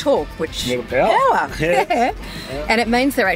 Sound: laughs

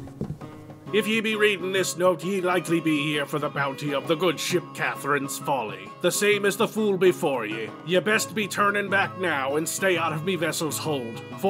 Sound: reads the text with a pirate voice

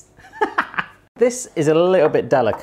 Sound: chuckling

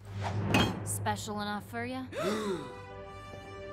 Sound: Ponies gasp

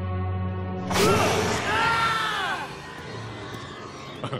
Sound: screaming

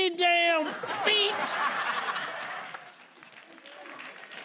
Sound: crowd laughs; crowd claps

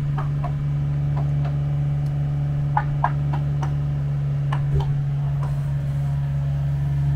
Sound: hammer banging and machine engine rumbling continues

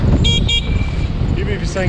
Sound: horn beeps

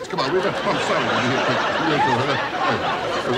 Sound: laughing

